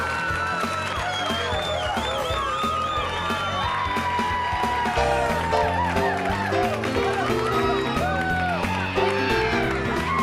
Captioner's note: crowd cheering